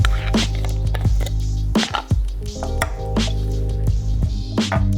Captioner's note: jar being opened; bowl being scraped